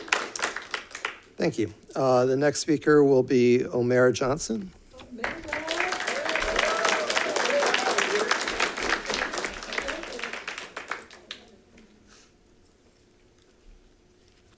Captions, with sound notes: - Thank you, the next speaker will be Omera Johnson. (audience clapping) (audience cheering)